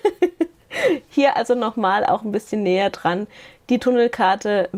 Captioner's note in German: Gelächter